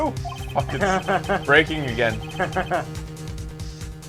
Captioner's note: laughs